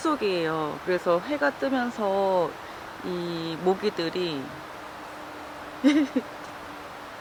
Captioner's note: laughter